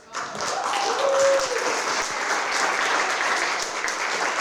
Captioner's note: applause